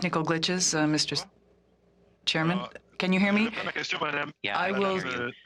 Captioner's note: speaking French